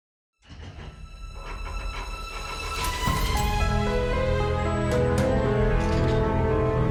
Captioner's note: suspenseful music; gears rattling